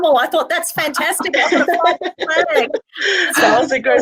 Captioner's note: all laughing